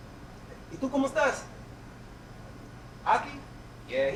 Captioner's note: speaks spanish